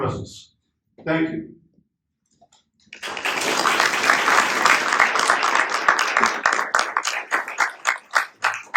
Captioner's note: applause